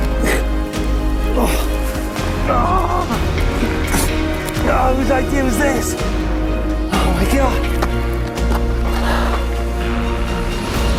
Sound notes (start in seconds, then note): 2.5 groaning loudly; 7.4 light electronic music